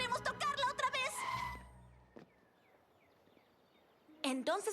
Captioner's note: tire squeal